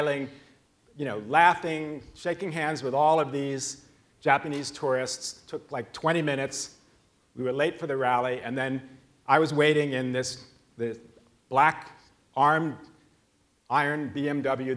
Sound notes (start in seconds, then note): none